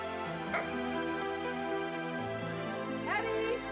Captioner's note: Nero barks